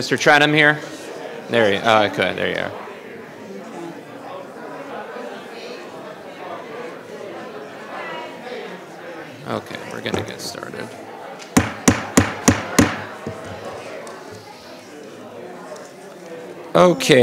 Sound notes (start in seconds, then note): 4.4 people chattering; 11.5 gavel banging